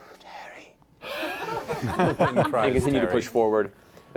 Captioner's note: laughter